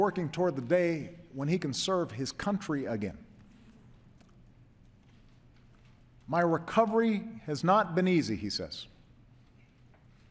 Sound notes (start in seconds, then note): none